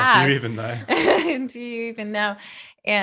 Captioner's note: laughing